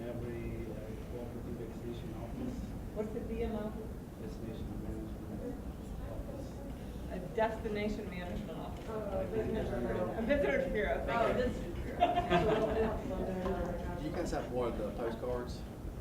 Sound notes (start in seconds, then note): 11.5 laughing; 13.2 voiceover